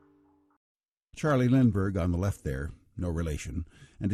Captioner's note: voiceover